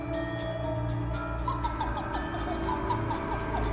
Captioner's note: child laughing